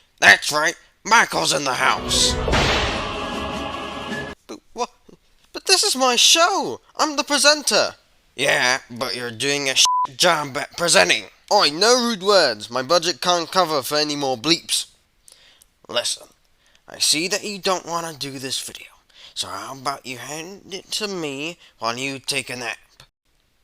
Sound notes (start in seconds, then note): 9.8 beep